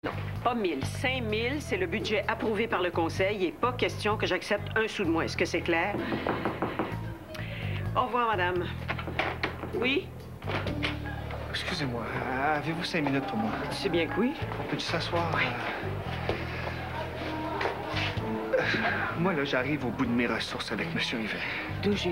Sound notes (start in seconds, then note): 5.9 On frappe à la porte